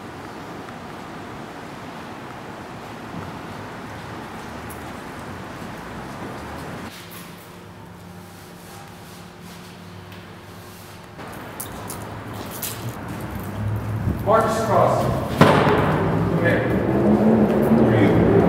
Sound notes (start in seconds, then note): 11.8 footsteps